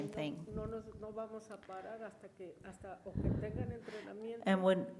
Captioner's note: woman speaks in foreign language